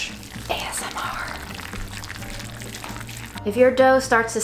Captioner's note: food squelching